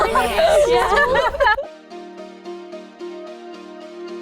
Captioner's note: all laughing